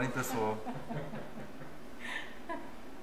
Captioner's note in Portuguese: risos